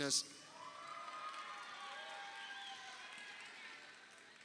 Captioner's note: crowd cheering